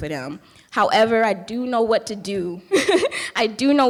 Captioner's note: laughing